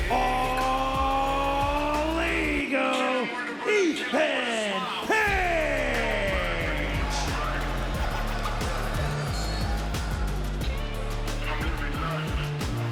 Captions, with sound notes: all ego, Ethan Page. (crowd cheering)